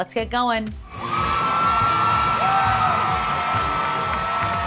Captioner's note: cheering